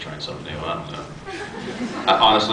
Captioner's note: scattered laughs